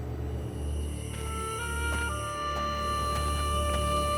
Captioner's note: insects chirping